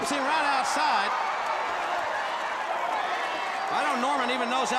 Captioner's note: crowd cheering